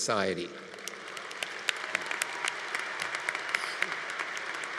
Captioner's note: congregation applauding